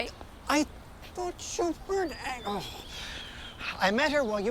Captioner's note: groans